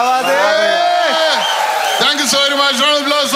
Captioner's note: crowd applauding